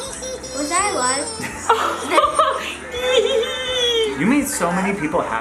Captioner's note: baby babbling; gasps